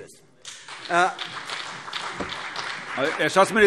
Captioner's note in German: Beifall CDU und BÜNDNIS 90/DIE GRÜNEN